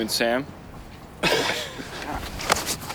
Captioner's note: laughs